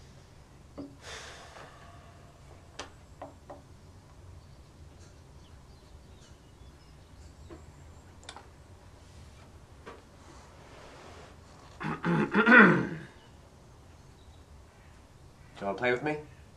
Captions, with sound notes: (little "girl" sighs) (little "girl" clears throat) So play with me?